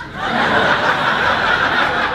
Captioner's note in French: rires